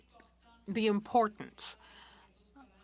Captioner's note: speaking French